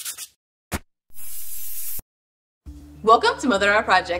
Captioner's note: spray paint can hisses